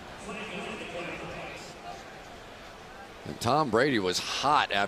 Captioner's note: pa announcement